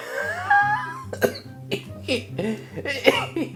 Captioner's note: laughing